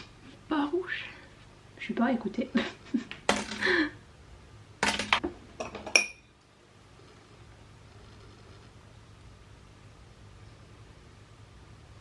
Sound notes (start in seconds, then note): 2.8 Laughs. The aidpods hitting the counter; 5.7 brushes tapping the glas